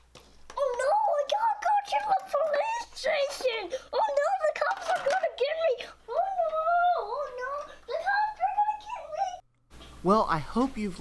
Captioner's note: little Kid Playing Voice